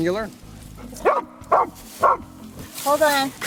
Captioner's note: dog barking